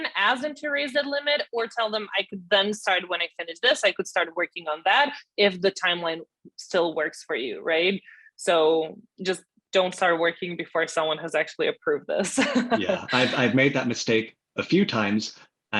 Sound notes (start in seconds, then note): 12.4 laughs